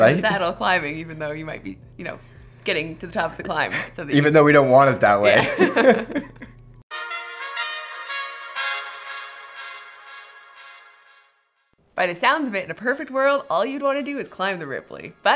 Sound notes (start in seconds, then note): 5.2 both laughs; 7.0 techno music